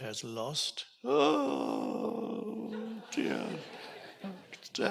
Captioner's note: audience laughs